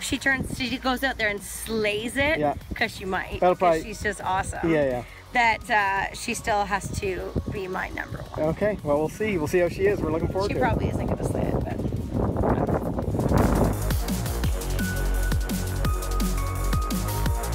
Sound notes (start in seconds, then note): 12.6 wind noise drowns out speech; 14.7 upbeat music